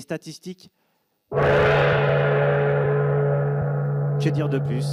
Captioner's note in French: le gong retentit